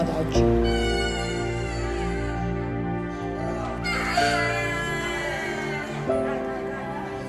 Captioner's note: gentle music continues; baby crying